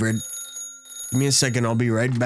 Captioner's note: phone ringing